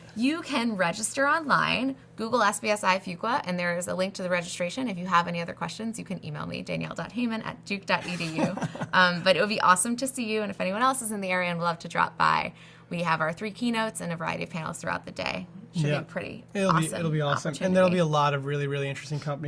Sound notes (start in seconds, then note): 8.0 laughs